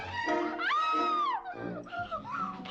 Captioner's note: katherine screaming